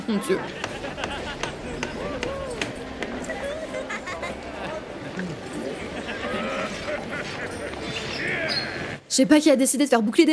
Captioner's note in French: rires qui n'en finissent plus l'enfer doit sonner comme ça en certains lieux